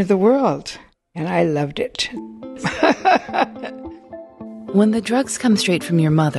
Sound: laughs

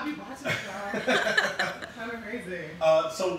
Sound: laughing

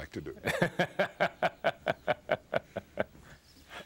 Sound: laughs

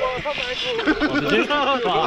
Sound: laughs

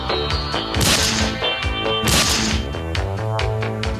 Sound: gun shots

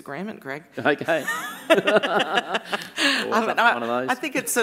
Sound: laughing

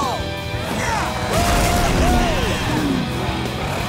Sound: cheering

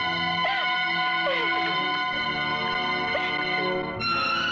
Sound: sobbing

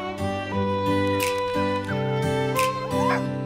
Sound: mouthing

